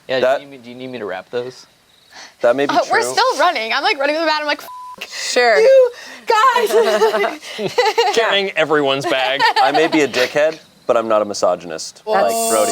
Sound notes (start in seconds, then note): 4.6 beeps; 6.2 laughs